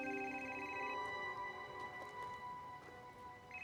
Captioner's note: gentle music continues; phone ringing